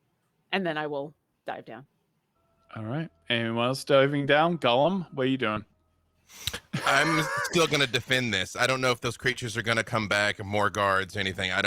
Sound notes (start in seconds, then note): 6.3 wheezes